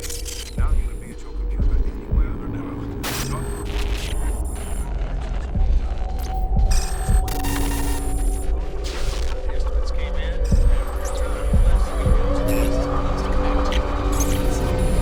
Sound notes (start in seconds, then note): 0.2 man 4 Over Radio; 2.9 computer chirping; 3.0 electricity crackling